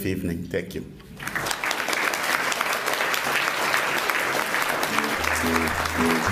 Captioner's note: applause